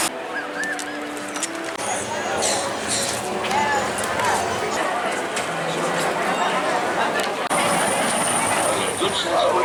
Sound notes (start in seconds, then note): 2.9 crowd murmuring